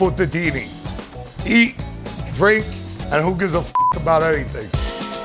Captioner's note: speaks Italian; beeping